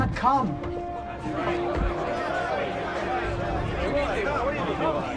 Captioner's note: men shouting at once